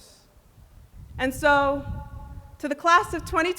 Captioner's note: speaking in a non-english language